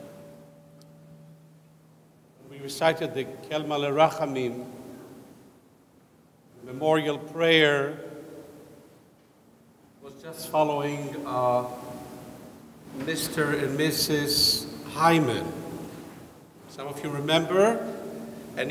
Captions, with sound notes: we recited the (speaks in foreign language) memorial prayer, was just following Mr. And Mrs. Hymen. Some of you remember?